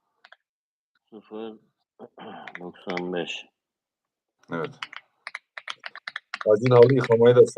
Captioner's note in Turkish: boğazını temizler